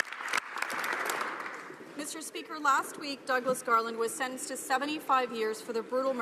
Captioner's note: some Applause